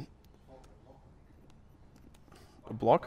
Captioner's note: voiceover